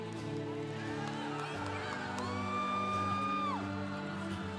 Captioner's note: congregation cheering